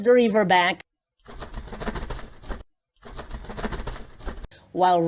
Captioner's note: flutters of wings